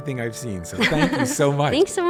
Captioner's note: laughs